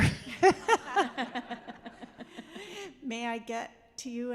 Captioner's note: laughing